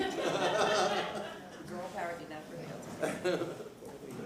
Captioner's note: laughter